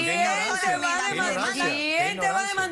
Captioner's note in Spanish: Hablan al unísono